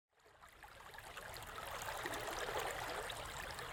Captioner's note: stream burbling